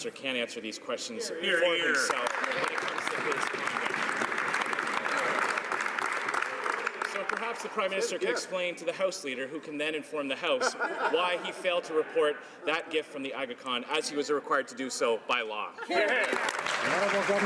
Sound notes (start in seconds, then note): 6.0 some Applause